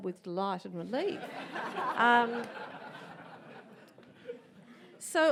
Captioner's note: audience laughs